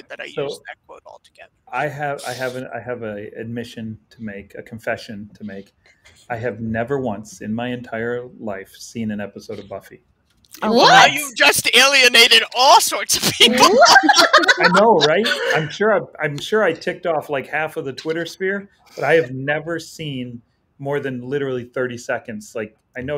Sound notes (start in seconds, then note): 13.2 women laughing